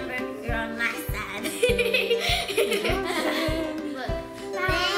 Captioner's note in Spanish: risa